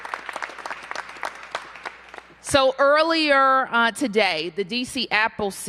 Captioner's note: applause